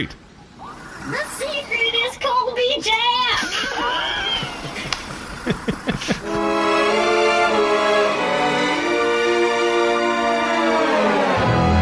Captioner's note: shouting; laughs